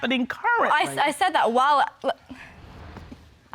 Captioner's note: hesitatingly